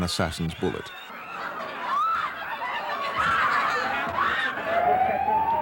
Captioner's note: screaming